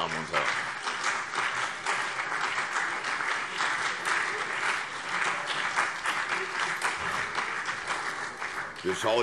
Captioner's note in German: Beifall CDU und BÜNDNIS 90/DIE GRÜNEN